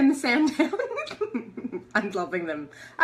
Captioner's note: laughter